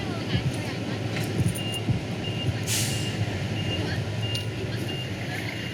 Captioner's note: city bustle